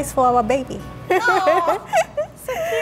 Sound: laughing

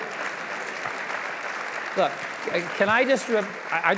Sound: applause

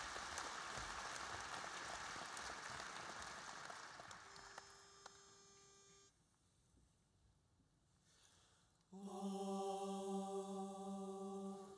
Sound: applause

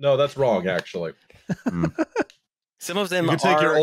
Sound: laughs

